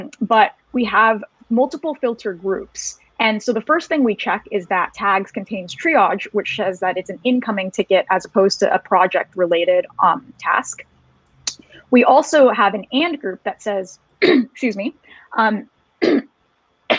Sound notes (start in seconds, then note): 16.0 throat clearing